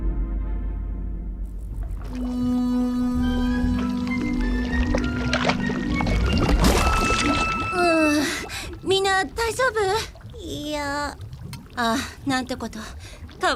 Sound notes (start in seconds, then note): 1.9 fudge splorching; 3.8 whimsical music plays